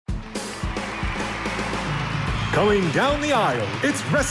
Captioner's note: crowd cheering; heavy metal music